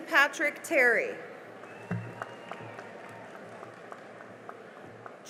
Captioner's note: cheering and applause